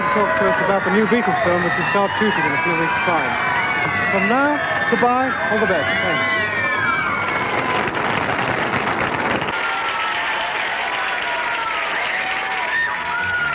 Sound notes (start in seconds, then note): 6.7 applause; 9.4 cheers and applause